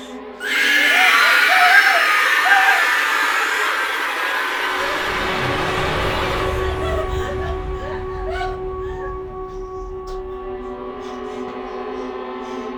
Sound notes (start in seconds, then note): 0.4 creature screeching; 6.7 Casey whimpering